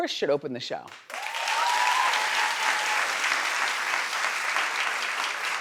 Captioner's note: audience applauding